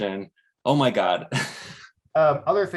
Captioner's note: chuckles